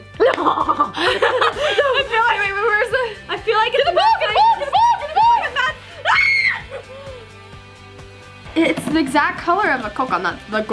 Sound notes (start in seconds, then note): 0.2 evil laugh; 6.0 scream